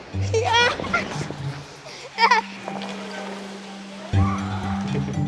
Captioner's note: laughing